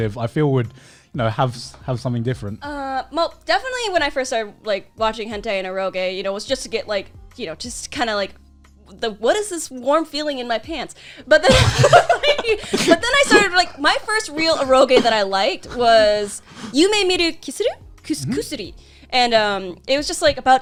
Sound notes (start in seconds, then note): 11.4 laughs